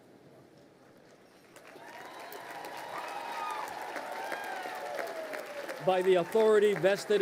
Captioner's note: crowd cheering and applauding